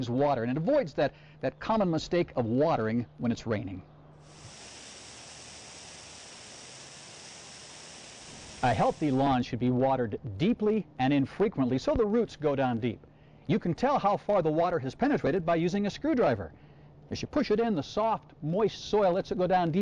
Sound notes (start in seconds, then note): 4.2 sound of sprinklers running